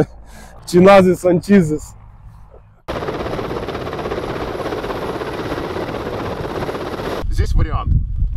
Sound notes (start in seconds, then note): 2.8 sound of helicopter landing